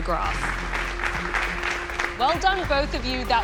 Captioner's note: applause